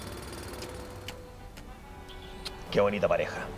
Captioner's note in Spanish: Sonido de besos